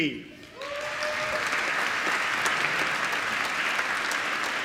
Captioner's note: applause